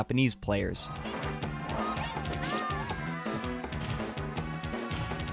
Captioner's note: Sounds from Street Fighter 2